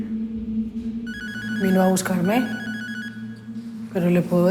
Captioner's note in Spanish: Suena el celular